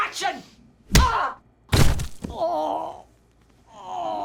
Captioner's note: bucky groaning; hand thudding